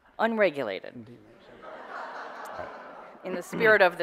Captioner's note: audience laughter